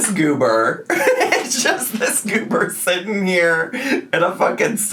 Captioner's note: laughing